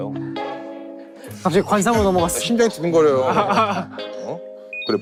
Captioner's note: pounding heart